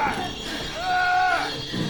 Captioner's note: man groaning in pain